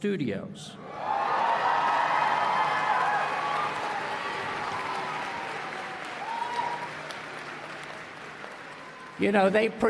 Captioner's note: applause and Cheering